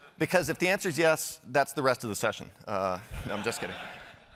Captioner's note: laughter